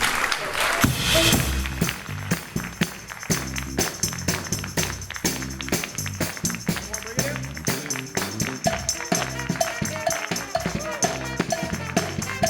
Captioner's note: applause